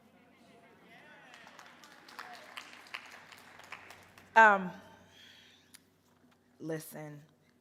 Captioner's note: crowd; applause and cheering